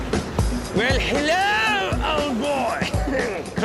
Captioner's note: British accent